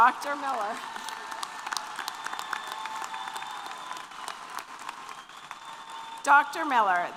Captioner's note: applause & Cheers